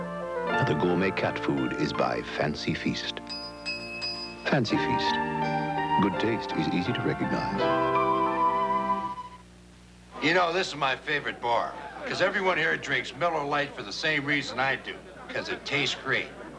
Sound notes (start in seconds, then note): 3.2 fork clanging